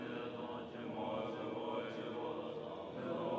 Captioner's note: chanting